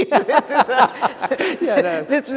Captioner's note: laughter